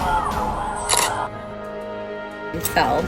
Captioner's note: photo snapping